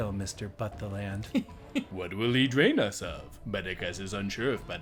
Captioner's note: giggles